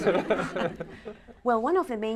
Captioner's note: laughter